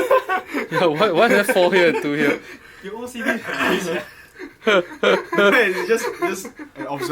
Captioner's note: laughter